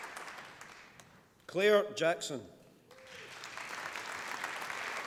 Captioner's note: applause